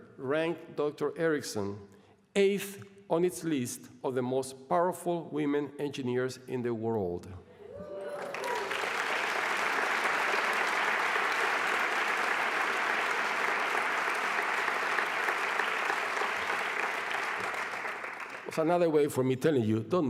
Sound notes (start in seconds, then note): 8.2 applause